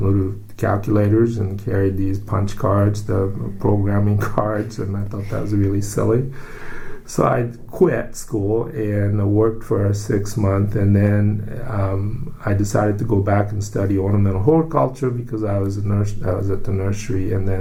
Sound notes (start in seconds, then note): 5.0 laughs